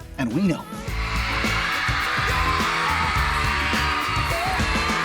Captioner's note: crowd screams